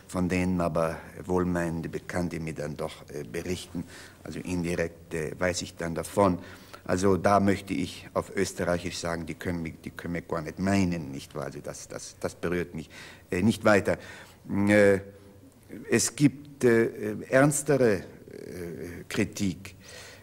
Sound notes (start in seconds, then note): 10.9 with heavy Austrian accent